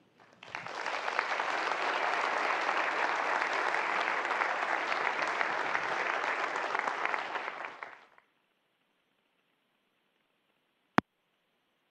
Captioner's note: applause